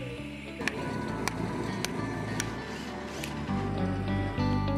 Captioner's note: construction sounds